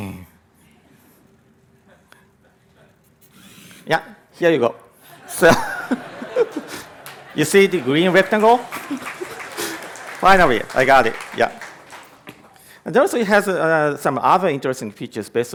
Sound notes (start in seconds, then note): 5.1 laughter; 8.2 applause